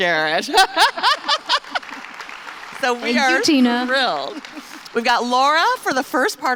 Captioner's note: applause